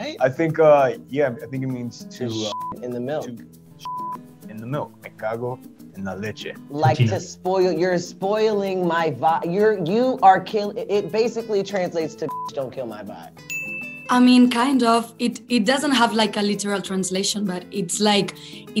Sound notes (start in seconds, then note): 2.4 beep; 12.3 beep; 13.4 ping